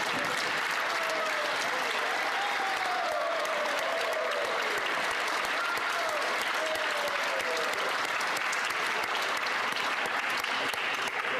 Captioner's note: applause